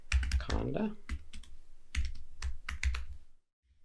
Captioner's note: typing